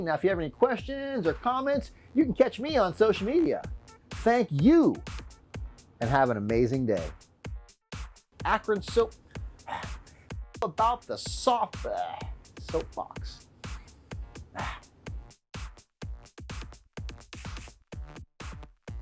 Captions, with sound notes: Now if you have any questions or comments, you can catch me on social media. Thank you, and have an amazing day. Akron soap. (sighs) About the soft, bleh, soap box. (sighs) (upbeat music)